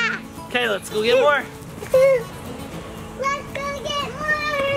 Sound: girl giggles

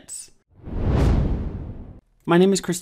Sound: wind whooshing

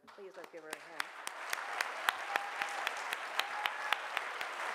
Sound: audience clapping

